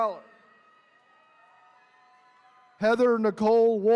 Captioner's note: attendees cheering